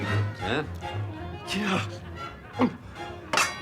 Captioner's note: gasping